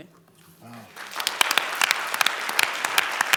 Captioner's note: applause